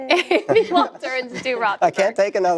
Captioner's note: laughter